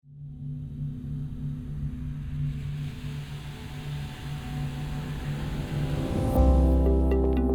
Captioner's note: fade in sound